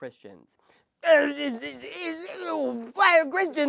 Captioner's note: Adam Sandler voice